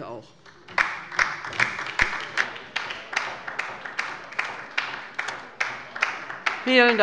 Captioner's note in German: Beifall bei der LINKEN